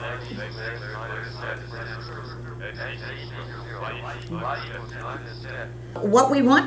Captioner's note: calculator voices